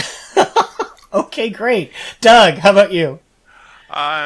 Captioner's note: laughing